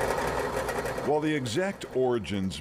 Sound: drilling

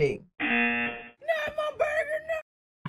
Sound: buzzer rings

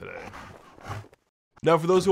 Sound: pants

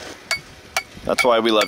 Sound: metal banging

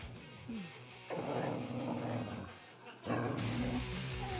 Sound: dog growling

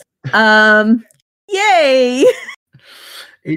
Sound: both laugh

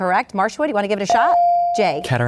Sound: ding

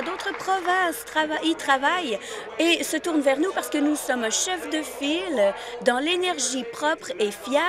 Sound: applause

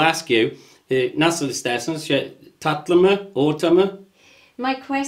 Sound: speaks in foreign language

